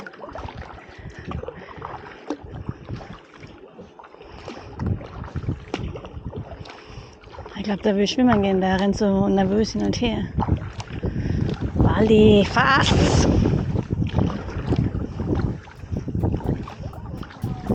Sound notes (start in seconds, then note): 0.1 paddling & distant voices; 12.9 paddling & wind